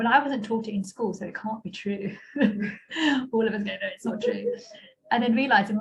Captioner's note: laughter